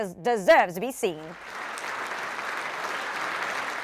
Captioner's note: applause